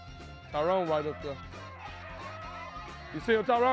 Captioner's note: murmurs